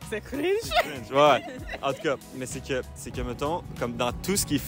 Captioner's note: speaking French